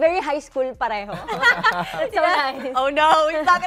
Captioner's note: laughter